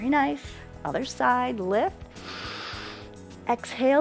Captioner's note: inhales